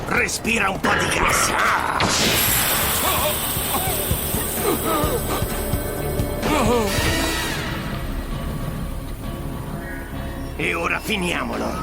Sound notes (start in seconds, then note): 2.0 gas hissing; 3.6 coughing